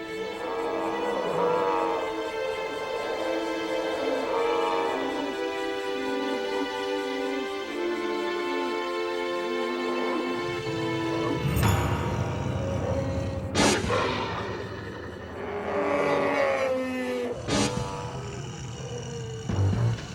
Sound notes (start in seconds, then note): 3.9 dinosaurs grunting; 11.4 growling; 15.4 bellowing